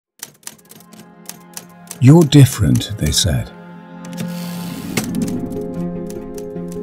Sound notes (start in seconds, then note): 0.2 typing sounds